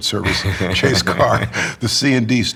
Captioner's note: laughs